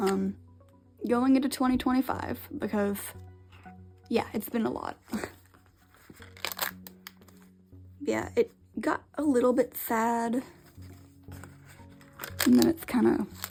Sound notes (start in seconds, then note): 5.7 laughs; 6.2 crackle